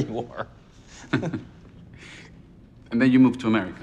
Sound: chuckles

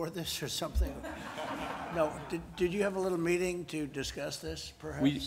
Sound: laughter

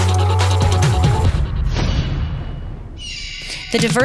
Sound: hawk screech; slam

